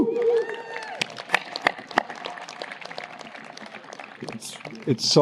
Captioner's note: audience applauding